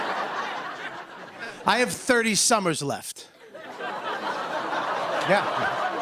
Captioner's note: light laughter; laughter